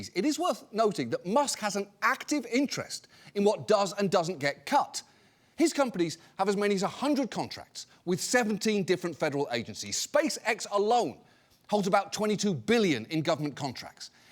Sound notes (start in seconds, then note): none